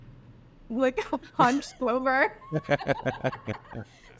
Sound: laughing

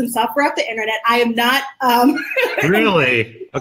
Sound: stutters and laughs

